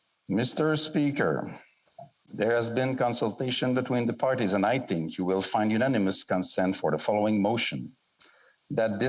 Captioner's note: speaking French